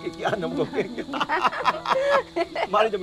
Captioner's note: both laughing